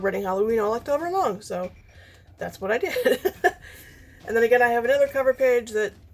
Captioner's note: laughs